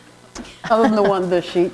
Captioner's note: chuckle